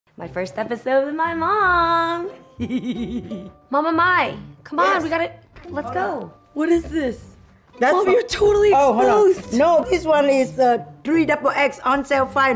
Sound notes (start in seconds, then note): 2.5 laughs